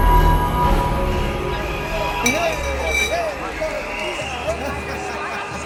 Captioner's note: crowd cheering in pub